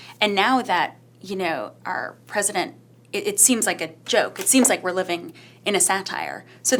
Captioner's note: none